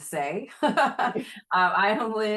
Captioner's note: laughing